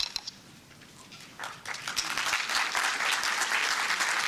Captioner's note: applause